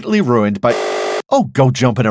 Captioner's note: buzzer